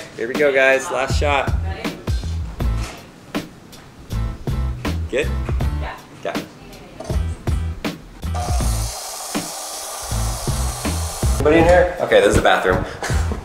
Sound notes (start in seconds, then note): 8.3 circular saw cutting